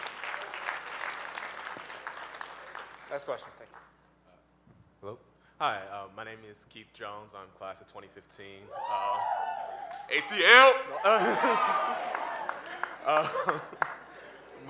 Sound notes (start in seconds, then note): 0.0 audience applauding; 8.7 audience cheering; 11.2 laughing